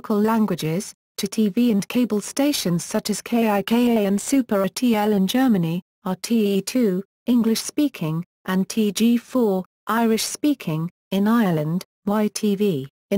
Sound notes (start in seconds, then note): 6.9 English speaking